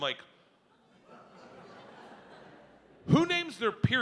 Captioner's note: audience laughs